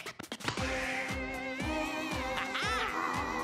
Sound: groaning

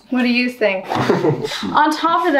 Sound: laughs

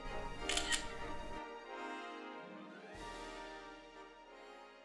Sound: camera snapping

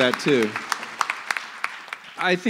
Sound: applause

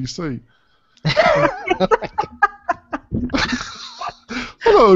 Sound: laughing

